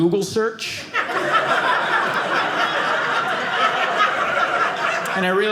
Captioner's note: audience laughing